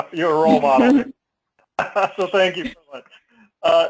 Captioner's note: laugh